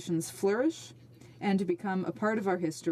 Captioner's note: speaking French